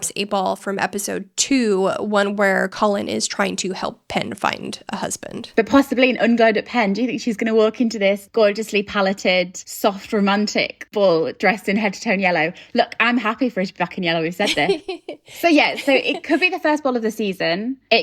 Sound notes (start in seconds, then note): 14.4 giggling